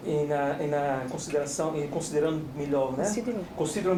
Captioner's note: speaking portuguese